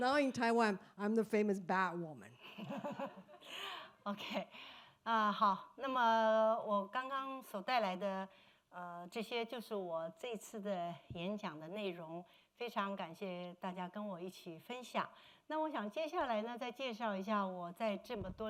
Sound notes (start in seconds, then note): 0.0 speaking Mandarin; 6.6 speaking foreign language